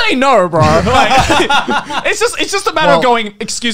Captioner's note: both laugh